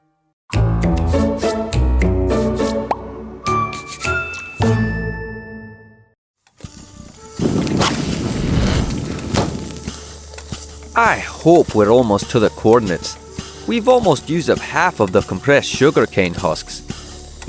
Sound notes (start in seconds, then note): 0.3 scene change music; 6.2 outdoors, steam works ambience